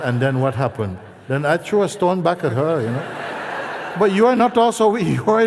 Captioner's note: laughter